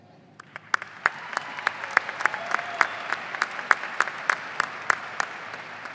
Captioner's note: audience applauding and cheering